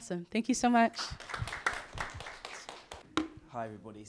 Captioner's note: audience clapping